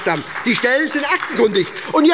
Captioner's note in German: Beifall bei der SPD